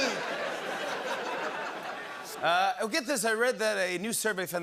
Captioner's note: laughter